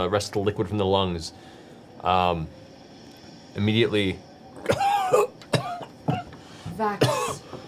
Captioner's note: coughs